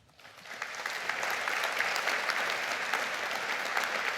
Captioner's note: audience clapping